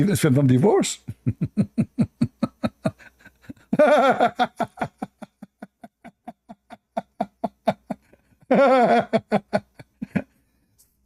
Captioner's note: Ketawa